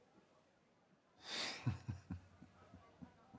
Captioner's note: chuckles